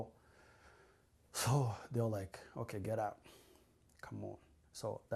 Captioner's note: sighs